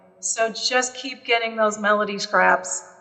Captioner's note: none